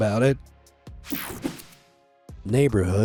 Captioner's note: screen whooshing